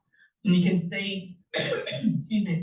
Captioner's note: coughs